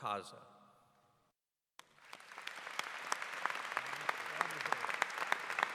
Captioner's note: applause